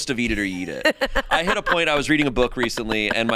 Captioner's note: laughs